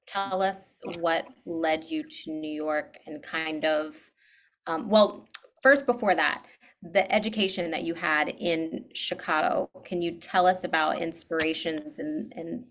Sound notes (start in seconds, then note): 5.3 clicks tongue